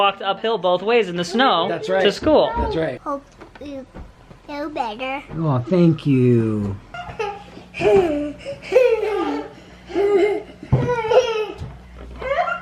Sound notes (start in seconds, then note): 6.9 laughing